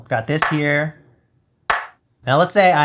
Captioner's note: clap sound